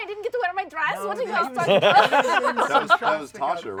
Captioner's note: laughter